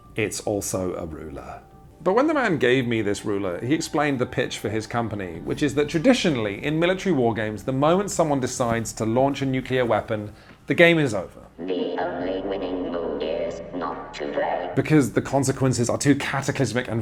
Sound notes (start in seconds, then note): 11.7 automated Voice